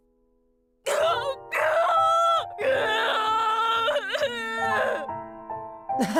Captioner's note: far-off but still very audible sobs; awkward laugh